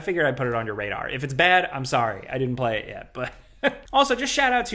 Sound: laughs

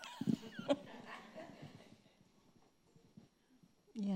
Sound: chuckling

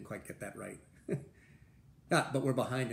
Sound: laughter

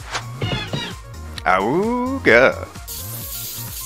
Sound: awoooga!

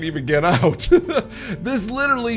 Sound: laughs

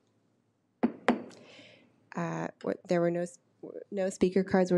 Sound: gavel bangs

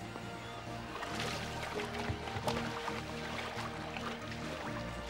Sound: water splashing

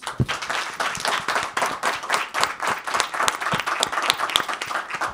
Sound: people clapping

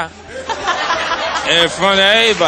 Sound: audience Laughing

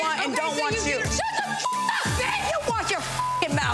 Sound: beep

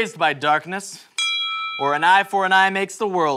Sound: ding

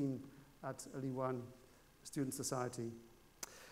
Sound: speaking foreign language

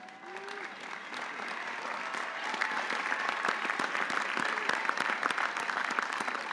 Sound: audience applauding; audience cheering

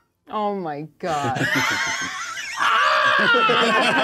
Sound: co-hosts laughing

